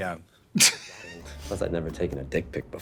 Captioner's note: Katya laughs